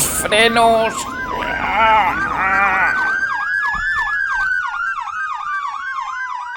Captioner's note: ambulance sirens sound 🚑